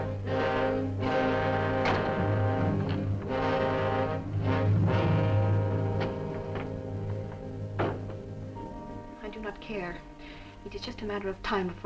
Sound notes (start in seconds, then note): none